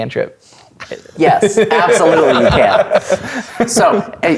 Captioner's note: players laughing